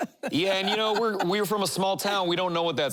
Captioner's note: laughing